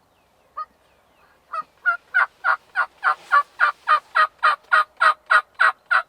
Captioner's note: multiple turkey calls continue